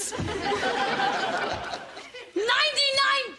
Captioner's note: audience laughter